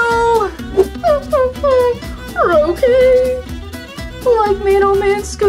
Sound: whimpering

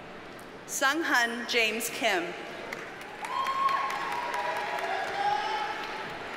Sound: audience cheers and applauds

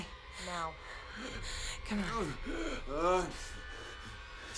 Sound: Solomon groans

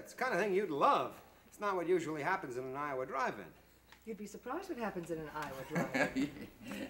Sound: laughter

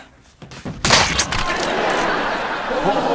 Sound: canon firing; laughing

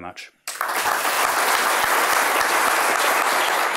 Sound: applause

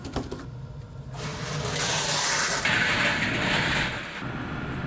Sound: loud grinding noise

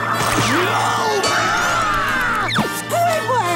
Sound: screaming

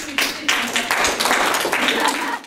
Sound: applause

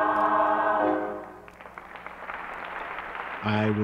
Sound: applause

